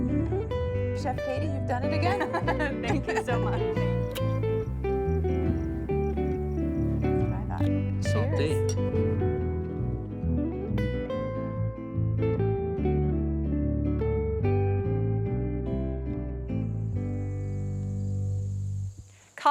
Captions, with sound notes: Chef Katie, you've done it again. [LAUGHTER] Thank you so much. [THEME MUSIC PLAYING] That's what I thought. Cheers. Indeed.